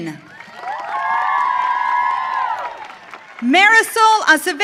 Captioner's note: audience cheering